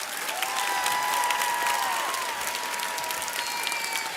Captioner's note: audience cheers